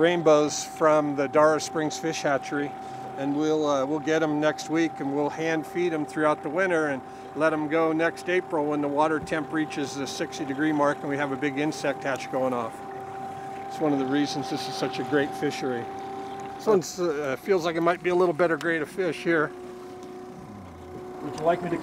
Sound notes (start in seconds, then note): 16.6 boat engine idling